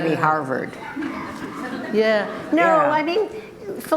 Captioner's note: group laughter